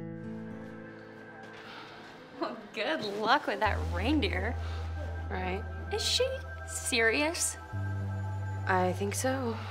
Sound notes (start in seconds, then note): 1.2 Ashley sighs